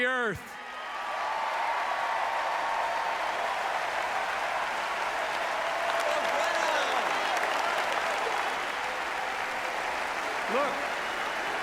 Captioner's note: applause; applause and "USA" chants